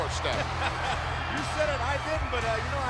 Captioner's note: laughs